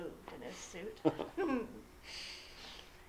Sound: chuckles

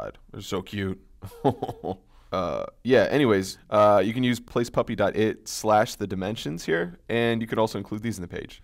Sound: laugh

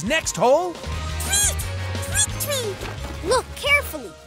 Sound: bird tweeting

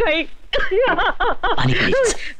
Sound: crying

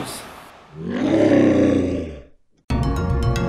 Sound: roar

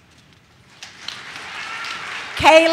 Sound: audience claps

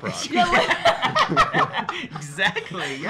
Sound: laughing

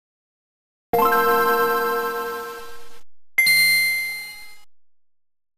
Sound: 16-bit video game sounds

